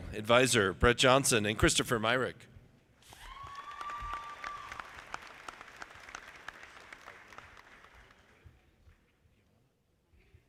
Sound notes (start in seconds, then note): 3.1 audience applauding